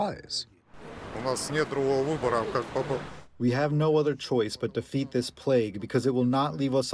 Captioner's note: through translator